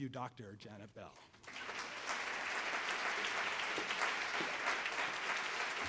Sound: audience applauds

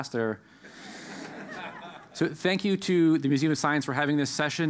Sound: laugh

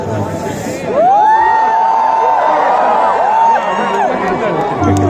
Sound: audience cheer

